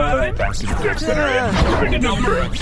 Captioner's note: assorted screams